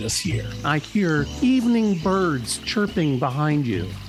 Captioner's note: sound of birds tweeting